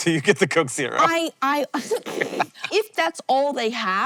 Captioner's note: laughs